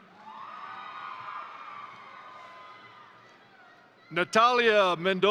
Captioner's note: crowd cheering; crowd applauding